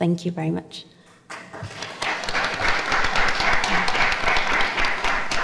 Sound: audience applauding

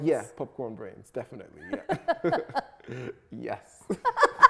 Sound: both laugh

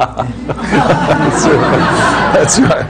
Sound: laughter

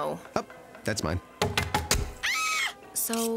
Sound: knife chopping; woman screams

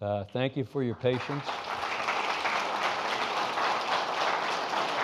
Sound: audience applauding

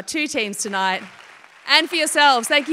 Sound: applause

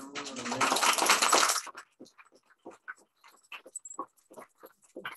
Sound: applause

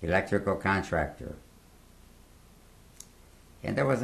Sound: pauses for 3 seconds

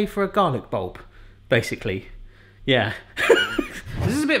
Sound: laughing

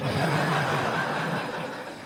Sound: laughter

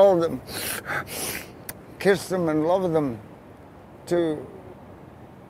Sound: sniffing

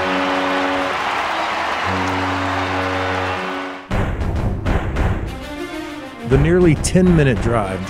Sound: cheering

